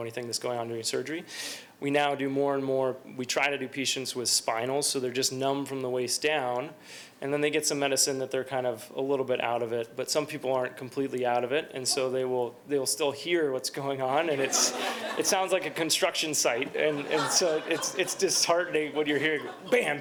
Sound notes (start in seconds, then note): 16.5 laughter